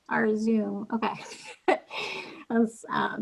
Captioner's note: laughing